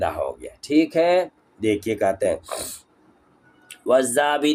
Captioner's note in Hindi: नाक से की जाने वाली आवाज़